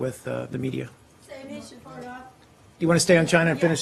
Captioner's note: reporters chattering